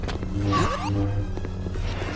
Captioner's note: Mario stomping sound